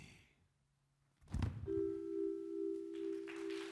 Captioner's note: body thuds; brooding music; audience clapping